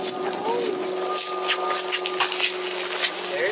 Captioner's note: shoes crunch on sand